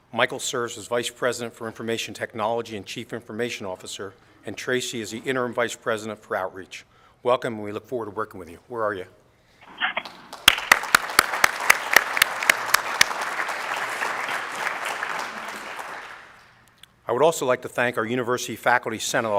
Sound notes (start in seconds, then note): 9.9 applause